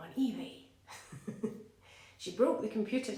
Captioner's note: laughs